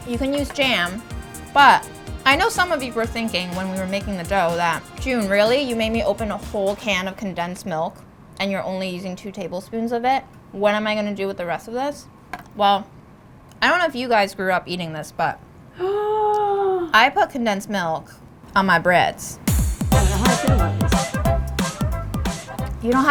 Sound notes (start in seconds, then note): 15.8 gasping